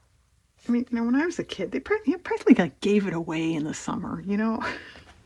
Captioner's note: laughs